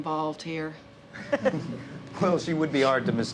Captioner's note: cops laughing